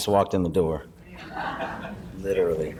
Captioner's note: laughing